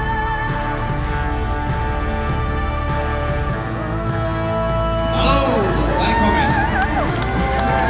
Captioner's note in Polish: Aplauz